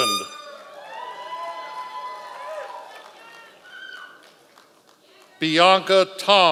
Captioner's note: members of the audience cheering